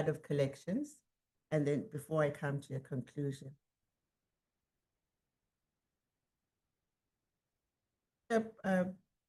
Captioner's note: sound drops out